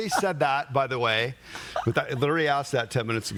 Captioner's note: laughing